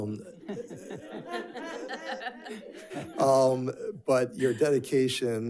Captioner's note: group laughs